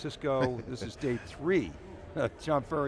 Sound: chuckles

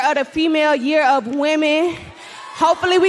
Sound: cheering

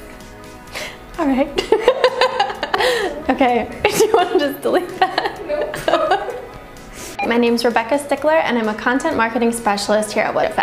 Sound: laughter

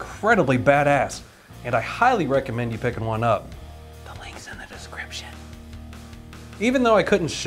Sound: whispering

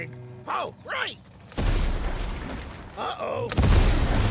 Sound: explosion

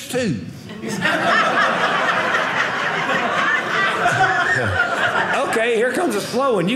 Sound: audience laughing

